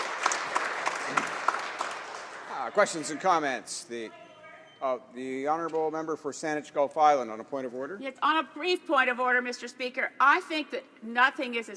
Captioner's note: applause